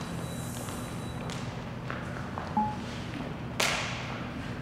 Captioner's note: footsteps tapping